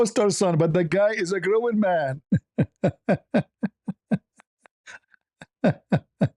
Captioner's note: ketawa